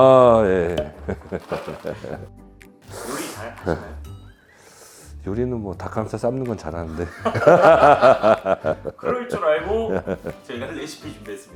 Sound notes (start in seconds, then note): 3.0 sigh; 7.0 shy laugh